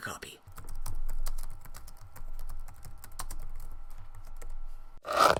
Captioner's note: typing noises